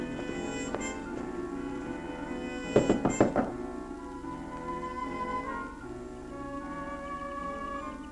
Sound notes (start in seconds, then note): 2.7 knocking on door